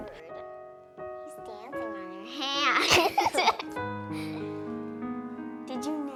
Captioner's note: laughs